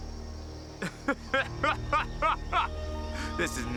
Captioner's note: laughing